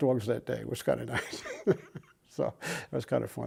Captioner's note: laughs